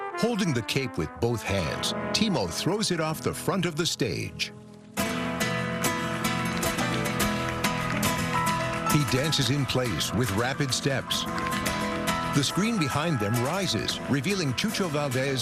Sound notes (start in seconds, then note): 5.2 tempo increases; 5.7 shoes tapping rhythmically